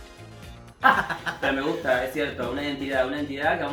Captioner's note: laughs